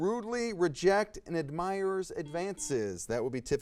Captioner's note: buzzer buzzes